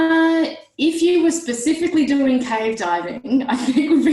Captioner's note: laughs